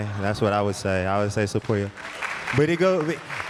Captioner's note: audience clapping